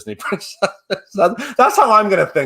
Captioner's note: chuckles